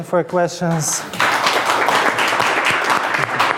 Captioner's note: audience applauds